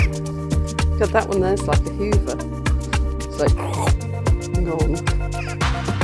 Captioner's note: sucking